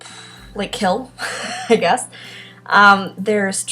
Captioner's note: laughs